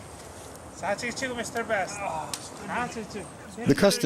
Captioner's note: Yapese spoken audio